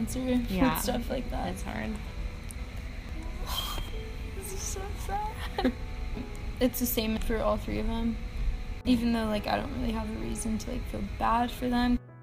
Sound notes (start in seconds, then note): 3.4 sighs